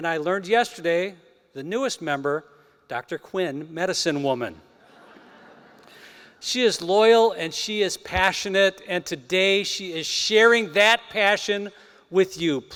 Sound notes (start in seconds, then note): 4.8 laughter